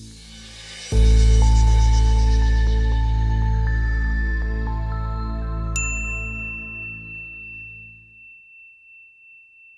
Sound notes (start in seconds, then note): 0.0 chill techno music; 5.7 bright ding